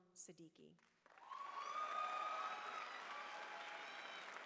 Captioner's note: cheering